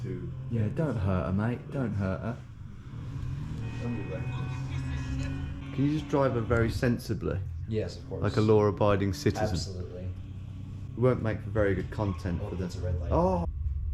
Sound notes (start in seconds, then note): 3.0 engine revving